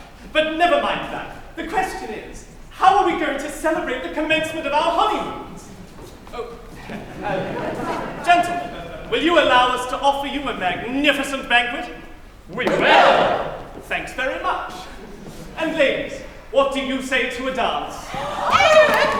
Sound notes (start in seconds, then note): 6.7 laughter